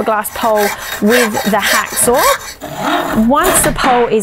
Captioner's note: saw squeaking